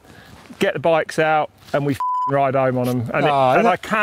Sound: beep

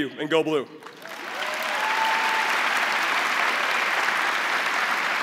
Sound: crowd applauding

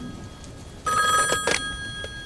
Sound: phone Rings

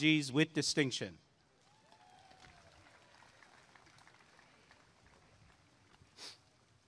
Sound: applause and cheering

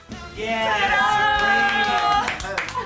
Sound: laughter

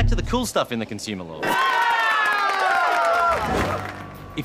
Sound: all cheer

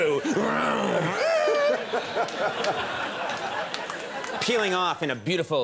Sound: mimics engine revving

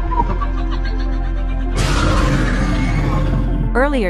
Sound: Demogorgon cheers

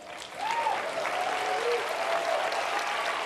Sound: cheers and applause

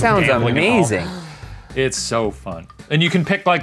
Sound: sighs

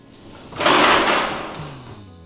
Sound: sound of door closing

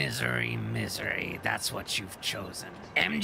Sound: Green Goblin Voice

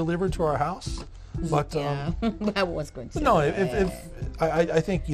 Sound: laughs

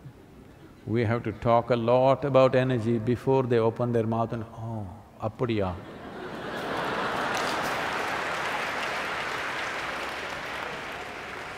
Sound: laughter

